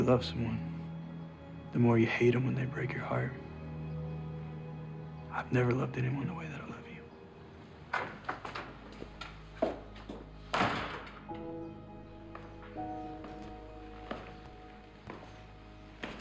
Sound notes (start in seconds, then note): 0.2 somber music; 5.2 footsteps clomping